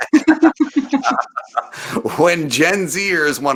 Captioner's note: laughing